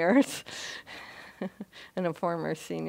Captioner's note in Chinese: 她笑